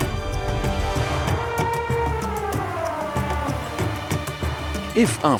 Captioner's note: elephant trumpeting